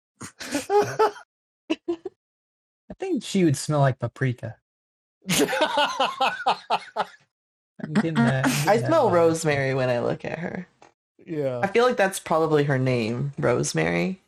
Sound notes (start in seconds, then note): 5.2 laughter; 12.7 rolling the 'R'